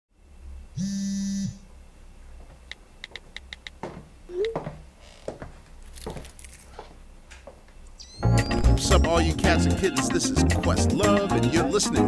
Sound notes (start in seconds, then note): 0.8 phone buzzing; 3.1 typing sounds; 4.3 text sending noise; 5.2 footsteps